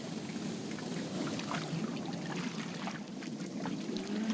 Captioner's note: water splashing